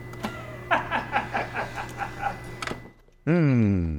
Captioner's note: laughs